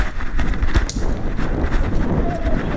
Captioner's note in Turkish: rüzgar sesi